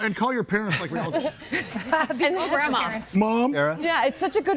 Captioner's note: everybody laughing